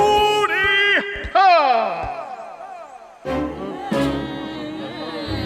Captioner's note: Pharaoh speaks gibberish; crowd murmurs